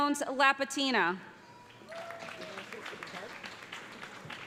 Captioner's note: applause